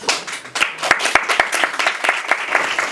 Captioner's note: applause